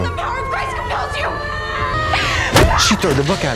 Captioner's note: Lottie shrieking